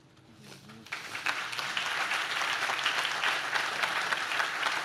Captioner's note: audience claps